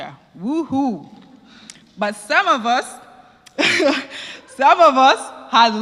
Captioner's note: laugh